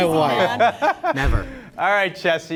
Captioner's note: laughing